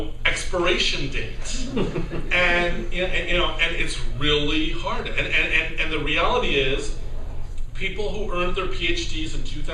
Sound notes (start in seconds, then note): 1.5 laughter